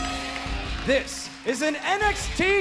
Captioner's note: bell ringing